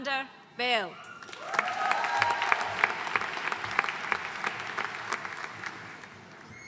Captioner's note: audience cheering and applauding